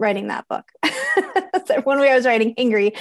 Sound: laughing

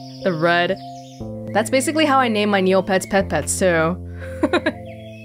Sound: chuckles

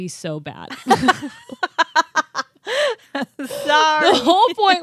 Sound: chuckling

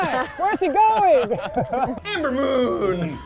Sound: laughing

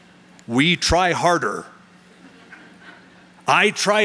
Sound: chuckling

